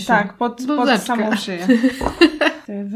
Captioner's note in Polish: śmiech